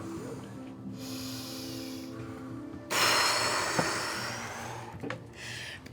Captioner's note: deep exhale